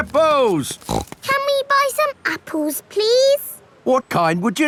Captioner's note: snorts